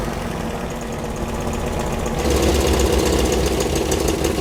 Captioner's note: engine rumbling